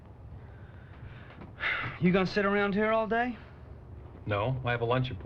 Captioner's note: sighs